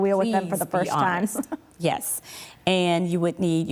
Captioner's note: laughs